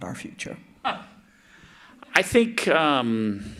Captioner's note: chuckles